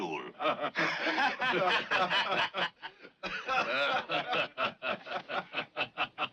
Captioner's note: others laughing